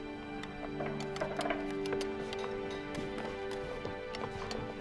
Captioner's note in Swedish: rätter klapprar